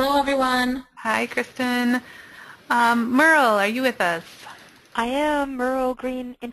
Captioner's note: voiceover; voiceover